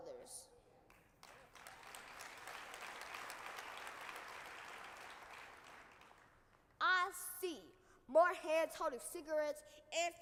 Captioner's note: applause